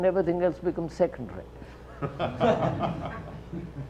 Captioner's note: laughter